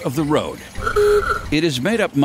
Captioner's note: car horn honks